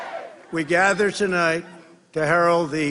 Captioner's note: crowd chanting